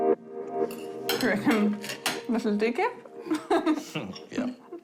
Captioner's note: laughs